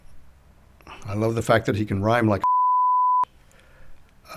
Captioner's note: beep